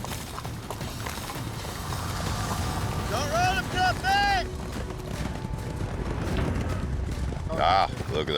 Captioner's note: hoofbeats, shouting